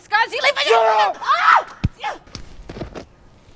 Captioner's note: screams